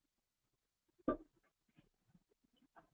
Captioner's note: pause